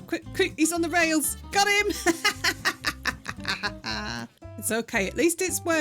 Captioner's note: triumphant laughing